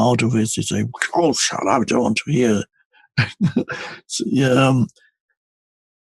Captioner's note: chuckles